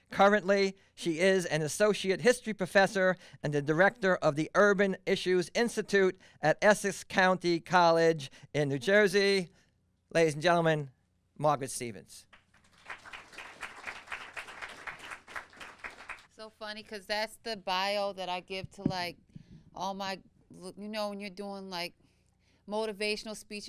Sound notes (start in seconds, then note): 12.3 audience applauding